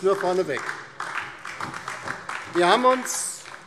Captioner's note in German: Beifall DIE LINKE